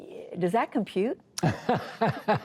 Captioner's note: laughter